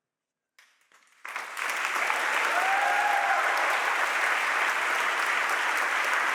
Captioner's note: audience applauds and cheers